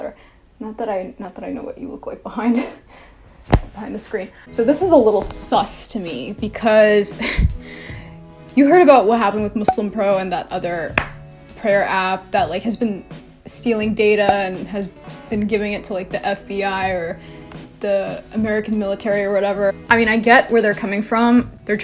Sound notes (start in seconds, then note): 7.2 scoffs